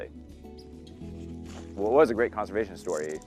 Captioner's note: shoes crackling